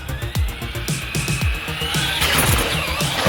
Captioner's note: wheels accelerating; wheels spinning; foam dragging